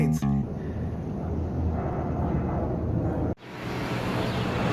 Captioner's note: airplane roars